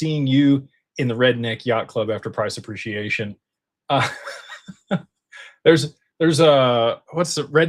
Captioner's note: laughter